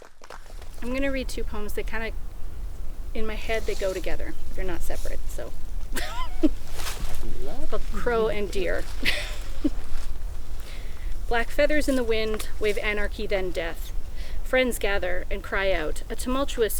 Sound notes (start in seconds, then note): 2.0 laughs; 10.5 murmurs of approval; 10.7 applause